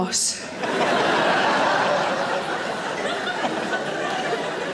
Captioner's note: audience laughing